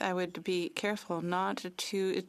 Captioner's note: speaking French